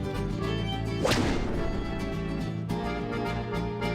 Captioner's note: loud bang